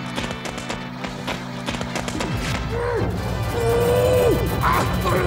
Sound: groaning

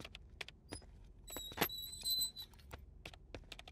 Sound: door closes

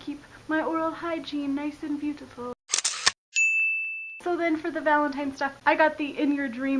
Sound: camera snap, DING

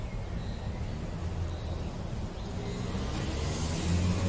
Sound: birds chirping

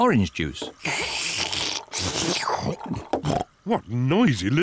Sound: both slurping

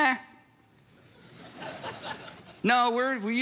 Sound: congregation laughs

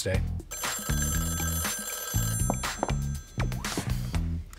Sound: phone ringing

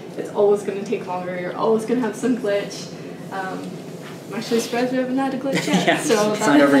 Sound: laugh

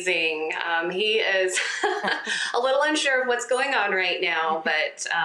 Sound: laughs

